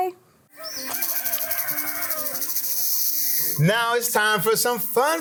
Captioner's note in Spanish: Canto de gallo